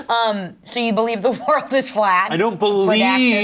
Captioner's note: laughs